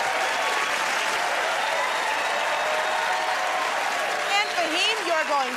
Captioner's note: cheers and applause